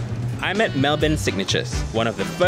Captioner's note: voiceover